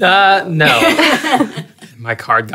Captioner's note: laughing